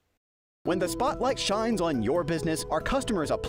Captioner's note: voice-over